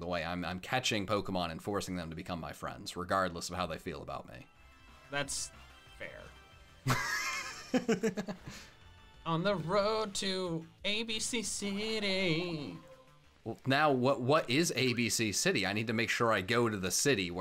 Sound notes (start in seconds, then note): 6.8 laughs